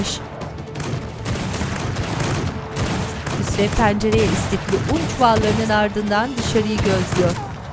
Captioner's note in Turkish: Silah sesleri